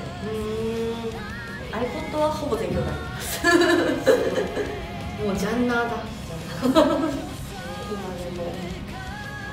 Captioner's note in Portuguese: risos